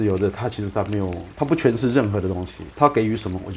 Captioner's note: brook water